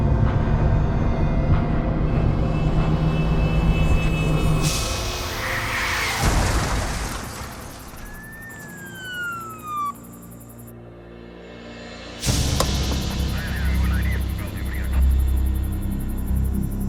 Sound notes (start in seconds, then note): 0.8 uneasy music; 4.3 tires screeching; 7.6 siren wailing